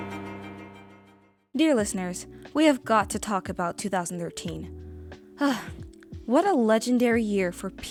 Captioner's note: sigh